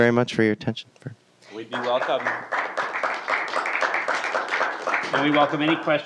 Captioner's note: applause